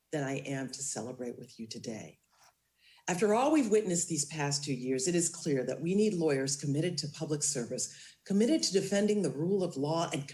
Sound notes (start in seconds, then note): none